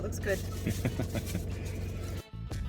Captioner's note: laughter